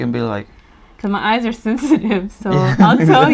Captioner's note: laughs